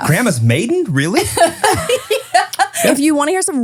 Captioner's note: laughing